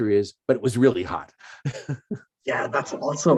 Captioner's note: chuckles